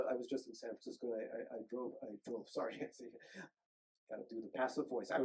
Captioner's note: chuckles